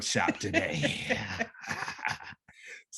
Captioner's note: laughter